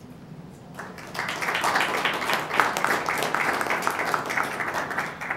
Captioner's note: applause